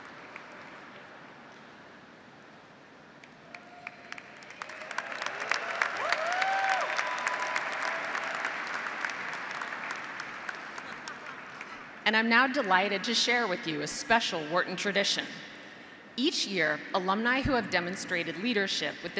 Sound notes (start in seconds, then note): 3.4 audience applauding; 4.5 audience cheering